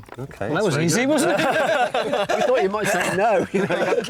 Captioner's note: all chuckle